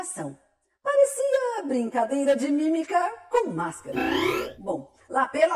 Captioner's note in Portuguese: efeito sonoro indicando passagem de tempo